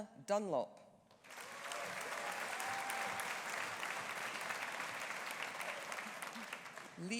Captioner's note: audience applauding; audience cheering